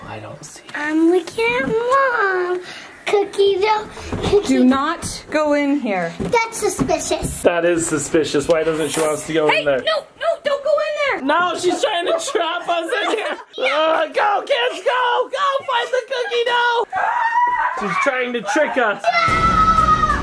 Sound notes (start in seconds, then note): 17.3 kids shout